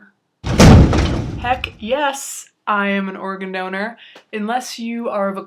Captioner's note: thunder claps